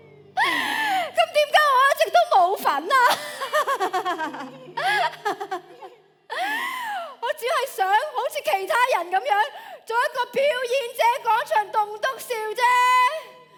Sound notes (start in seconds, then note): 2.6 laughs